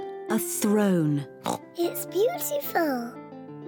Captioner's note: oinks